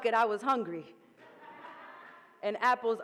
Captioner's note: audience laughing